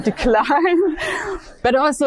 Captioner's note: audience laughing